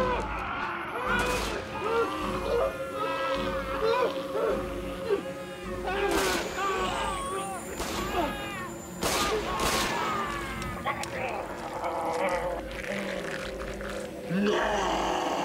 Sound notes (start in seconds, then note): 0.0 gunshot booming; 0.3 snarling; 0.3 yelling; 6.3 gunshots booming; 6.3 yelling; 10.8 guns clicks; 10.9 snarling; 11.6 yelling and snarling